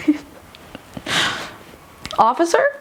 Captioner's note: laughing